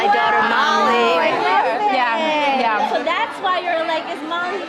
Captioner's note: chatting